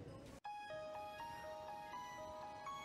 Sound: phone rings

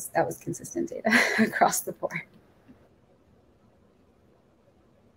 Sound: chuckling

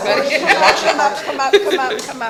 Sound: laughs

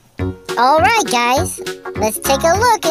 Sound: upbeat music; high Pitched Voice

